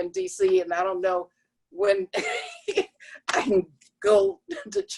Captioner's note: laughter